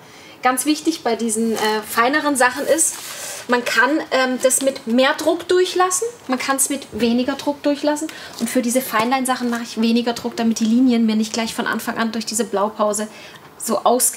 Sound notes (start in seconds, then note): none